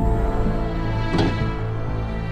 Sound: door Latches Open

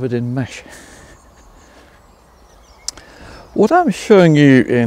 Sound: birds chirping

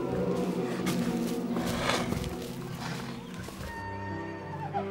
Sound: growling

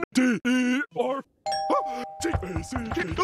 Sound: ring

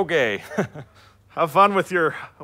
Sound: awkward chuckle

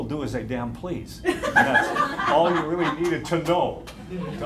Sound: laughter

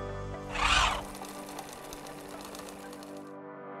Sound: bell chiming; sewing machine

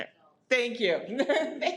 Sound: laughs

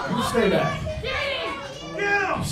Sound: crowd yells angrily

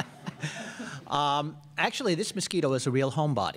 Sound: laughter

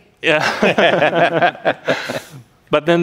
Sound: laughter

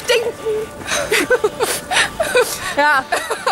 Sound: sniffle

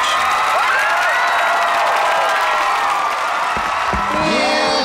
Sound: cheering

